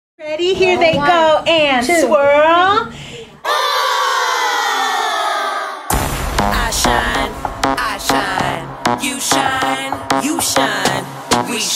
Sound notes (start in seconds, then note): 3.4 children cheering; 5.9 upbeat music